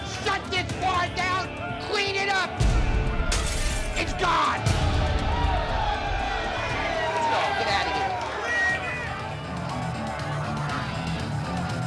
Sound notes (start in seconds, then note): 3.3 glass shatters; 8.7 intense music